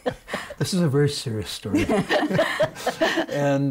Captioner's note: laughing